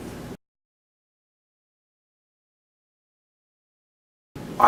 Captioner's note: silence